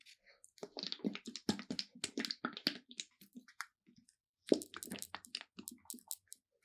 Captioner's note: liquid sounds